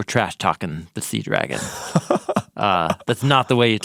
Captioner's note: person laughing